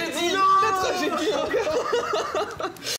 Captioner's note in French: rires